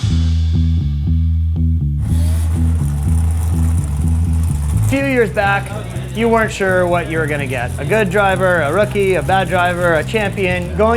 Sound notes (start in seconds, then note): 0.0 low-key rock music; 2.1 engine roars; 2.1 engine rumbling